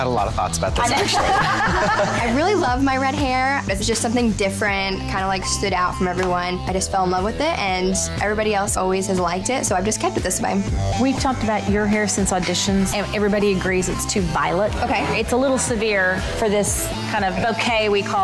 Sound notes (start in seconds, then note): 0.8 all laughing